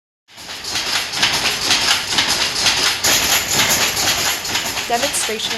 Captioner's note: industrial machine noise